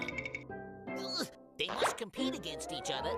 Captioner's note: groaning